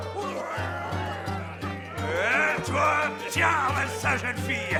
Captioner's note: men muttering; upbeat music continues